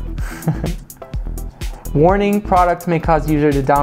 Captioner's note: chuckles